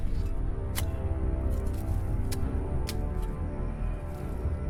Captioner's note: shovel thuds